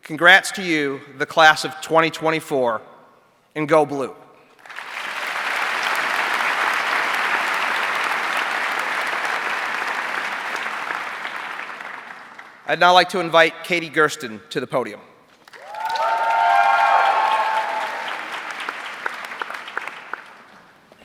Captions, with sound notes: congrats to you, the class of 2024, and go Blue. (audience clapping) I'd now like to invite Katie Gerstin to the podium. (audience cheering)